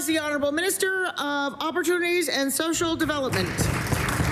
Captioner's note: applause